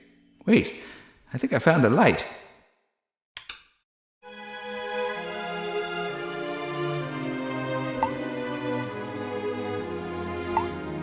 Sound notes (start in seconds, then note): 3.4 click; 4.3 mysterious music